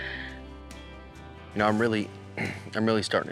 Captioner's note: clears throat